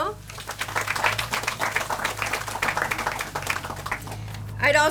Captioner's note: audience applauds